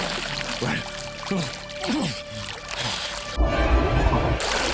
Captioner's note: grunts; tense music